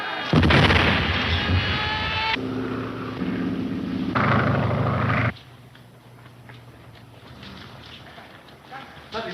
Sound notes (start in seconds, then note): 0.3 explosion booming; 1.4 plane engine rumbling